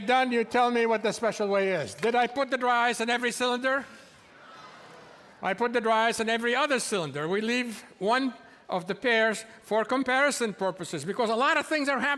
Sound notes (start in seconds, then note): none